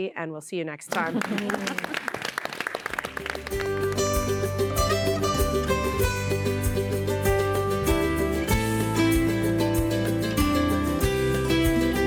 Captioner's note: applause